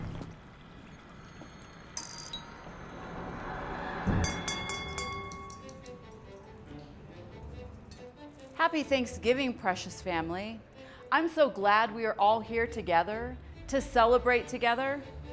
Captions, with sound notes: (doorbell rings) (glass clinks) (mellow violin music) - Happy Thanksgiving, precious family. I'm so glad we are all here together to celebrate together.